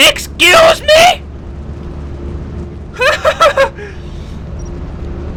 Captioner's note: confused laughter